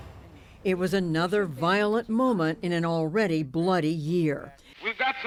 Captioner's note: voice-over